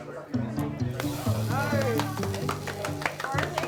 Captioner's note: sizzling sounds